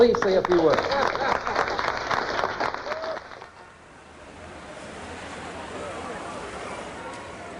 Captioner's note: applause